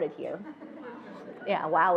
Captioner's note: attendees laughing